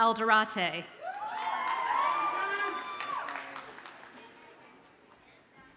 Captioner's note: audience cheers and applauds